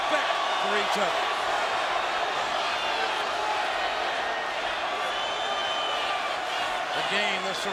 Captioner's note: applause